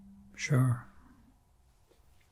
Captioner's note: pauses 6 seconds